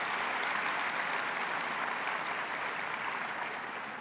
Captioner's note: applause